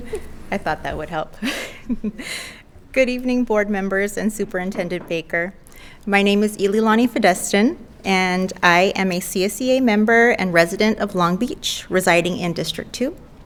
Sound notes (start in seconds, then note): 0.0 laughs